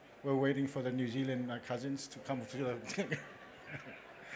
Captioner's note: laughter